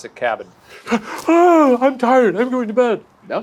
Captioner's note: yawns